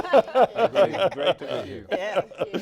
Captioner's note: all laughing